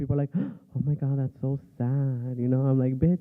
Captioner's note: gasp